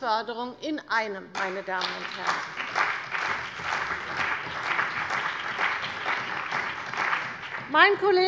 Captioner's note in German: Beifall bei der CDU und dem BÜNDNIS 90/DIE GRÜNEN